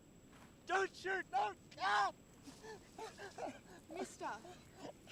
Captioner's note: screaming